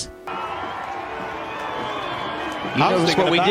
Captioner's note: crowd cheering